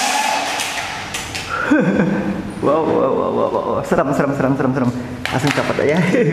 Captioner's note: chuckle